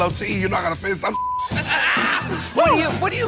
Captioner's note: beep